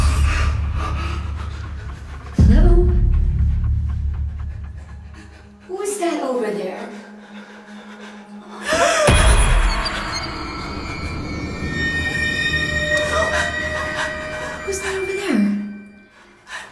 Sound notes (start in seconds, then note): 0.0 rapid breathing; 8.7 gasps; 10.8 eerie music